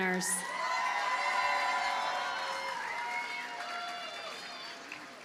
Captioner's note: audience cheers and applauds